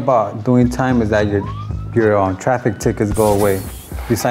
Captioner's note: police siren